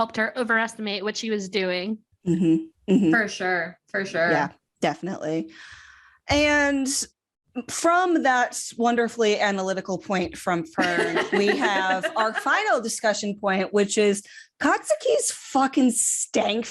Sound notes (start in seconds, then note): 10.9 laughs; 16.1 laughter